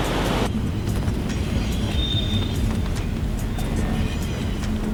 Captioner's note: train screeching